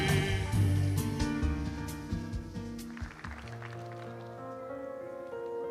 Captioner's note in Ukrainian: оплески